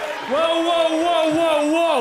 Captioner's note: crowd cheering; bell ringing